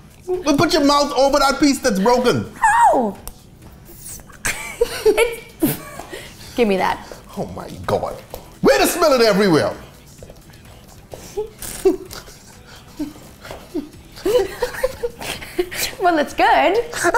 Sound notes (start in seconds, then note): 11.2 giggles; 16.6 laughing